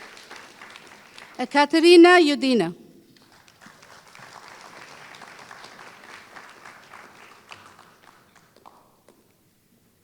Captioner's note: applause